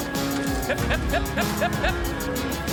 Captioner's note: calling cattle